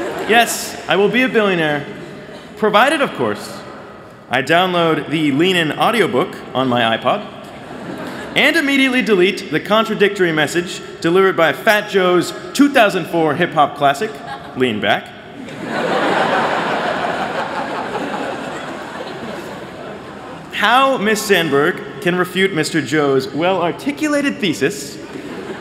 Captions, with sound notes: Yes, I will be a billionaire. Provided, of course, I download the Lean In audio book on my iPod and immediately delete the contradictory message delivered by Fat Joe's 2004 hip hop classic, Lean Back. [LAUGHTER] How Ms. Sandberg can refute Mr. Joe's well articulated thesis